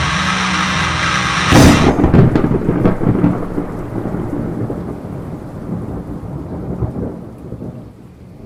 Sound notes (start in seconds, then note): 0.0 thunder crashes